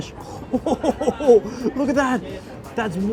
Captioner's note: laughs